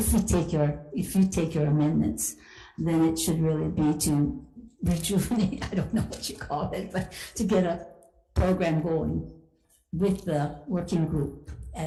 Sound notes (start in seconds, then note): 5.5 chuckles